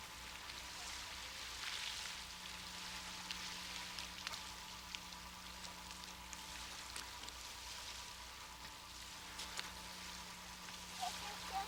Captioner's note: water sounds